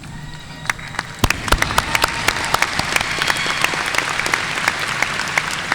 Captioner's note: audience cheering and applauding